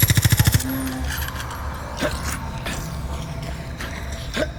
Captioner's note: grunting; helicopter whirring